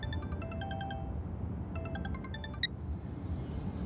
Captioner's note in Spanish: suena el celular